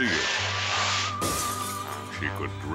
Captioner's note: glass shatters